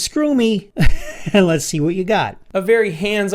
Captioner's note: chuckles